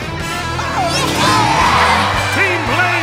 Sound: cheering

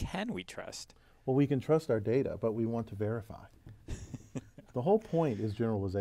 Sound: laugh

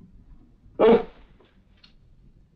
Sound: scoffs

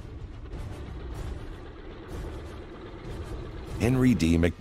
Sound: airplane engine roaring

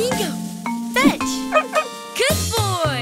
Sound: dog barks

